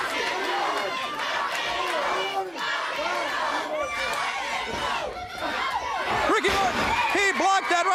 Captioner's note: crowd cheering